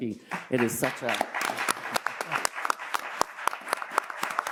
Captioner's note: audience applauds